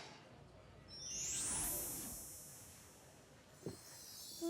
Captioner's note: shimmering